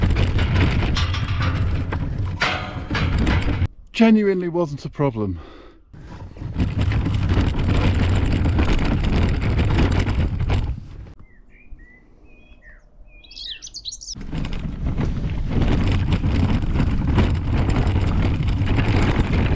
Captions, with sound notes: [gate closes] Genuinely wasn't a problem. [wheels scraping] [birds chirping] [wheels scraping]